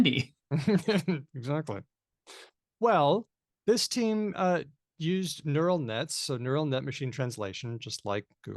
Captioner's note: chuckles